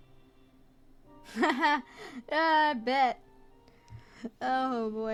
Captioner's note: laugh